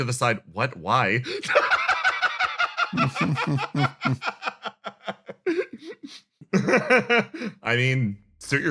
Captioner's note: laugh